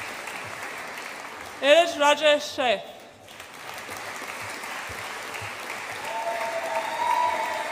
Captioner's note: audience applauds and cheers